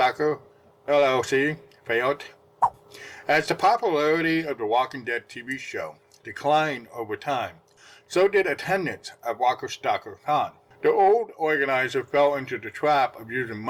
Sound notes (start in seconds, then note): 2.6 swipe Sound